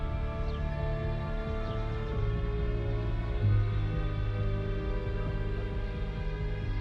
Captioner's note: deep haunting music; birds chirp